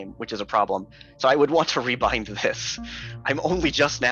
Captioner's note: chuckling